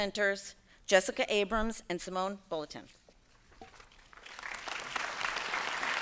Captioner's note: applause